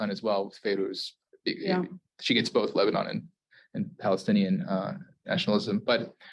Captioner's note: Hebrew